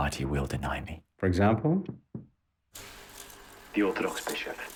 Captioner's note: foot taps